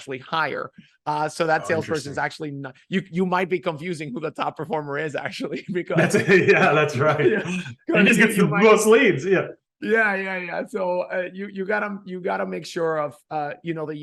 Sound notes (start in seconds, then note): 5.9 laughing